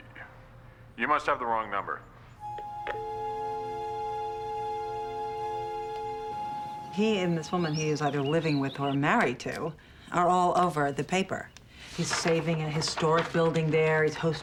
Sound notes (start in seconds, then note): 2.5 click, Dial tone